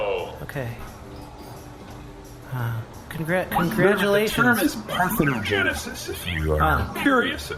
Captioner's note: glumly